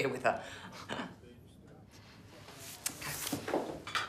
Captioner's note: chuckling